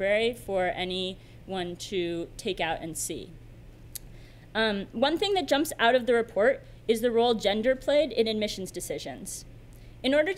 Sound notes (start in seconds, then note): none